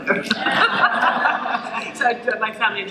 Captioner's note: laughter